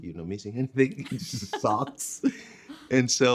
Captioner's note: laughing